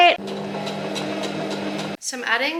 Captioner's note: machine surges